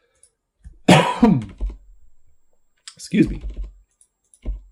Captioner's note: coughs